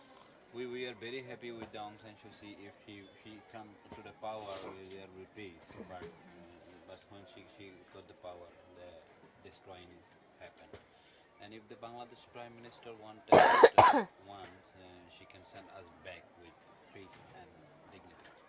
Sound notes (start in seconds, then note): 13.3 coughs